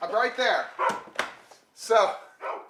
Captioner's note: dogs barking